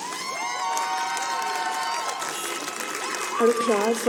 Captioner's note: shouting and clapping